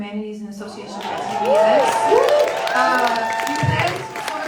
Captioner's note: audience cheers loudly